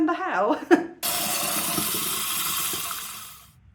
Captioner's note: water running